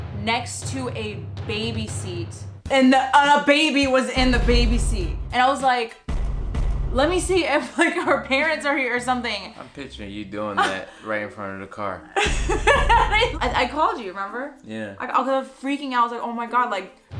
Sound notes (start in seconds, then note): 12.2 laughing